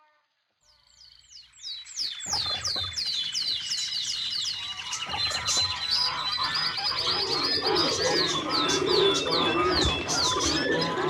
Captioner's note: birds singing